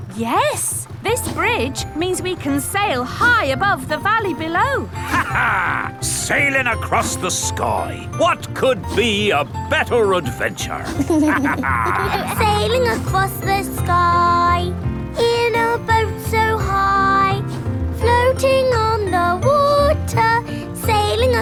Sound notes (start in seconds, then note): 10.8 captain dog and kids laughing